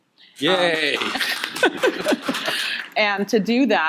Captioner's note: audience applauding